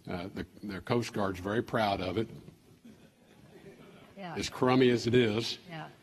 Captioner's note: laughter